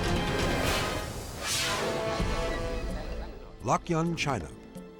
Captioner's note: scene swooshing